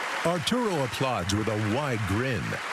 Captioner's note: cheering and applause